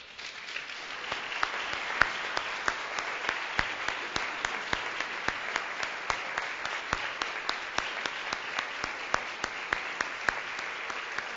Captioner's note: applause